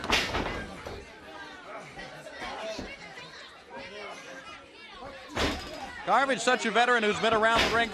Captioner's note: crowd chatter